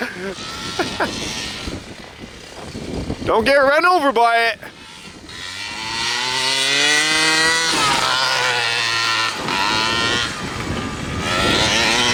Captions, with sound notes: Don't get run over by it. (motor revving)